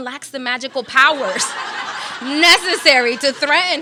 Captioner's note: audience laughs